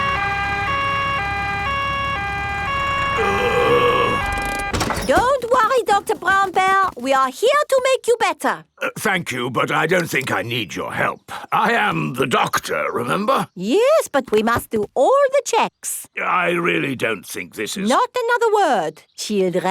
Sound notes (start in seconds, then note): 0.0 siren wailing; 3.1 groaning